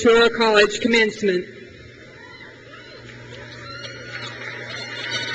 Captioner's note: crowd cheers